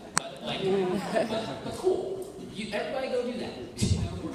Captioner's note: laughter